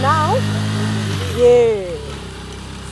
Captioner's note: bike noise relaxes